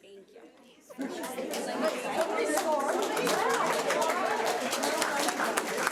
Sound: audience applauding

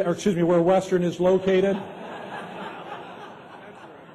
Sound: laughter

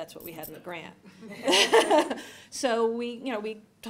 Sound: laughter

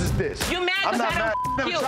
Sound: beep

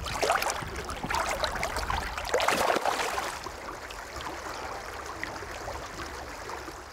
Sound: water lapping

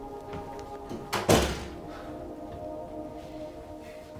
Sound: door shuts

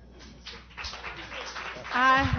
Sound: applause

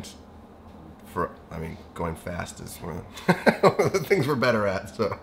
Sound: laughs

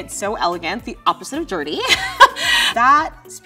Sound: laughs

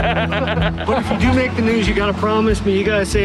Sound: laughter

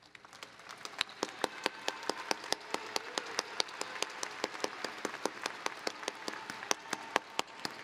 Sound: applause

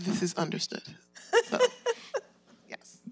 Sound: laughs

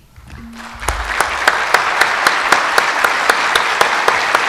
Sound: audience applauds

